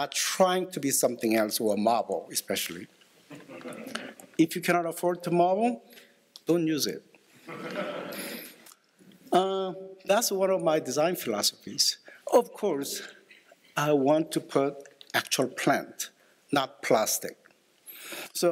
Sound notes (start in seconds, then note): 3.3 laughter; 7.4 laughter